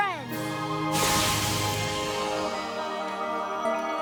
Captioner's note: zap!